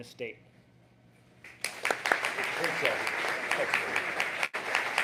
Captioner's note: applause